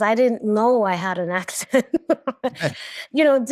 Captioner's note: chuckles; laughs